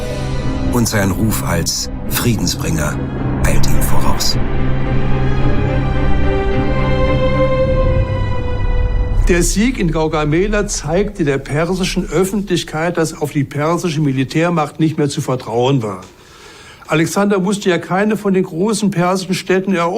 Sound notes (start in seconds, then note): 5.0 suspenseful music; 9.0 in German